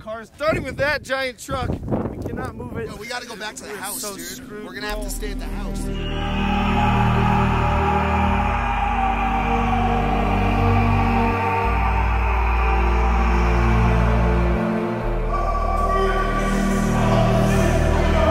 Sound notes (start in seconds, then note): 5.9 yells; 10.0 continues yelling; 16.0 chanting echo of logans dramatic complaints